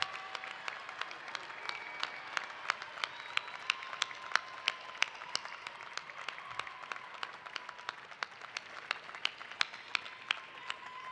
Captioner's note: cheers and applause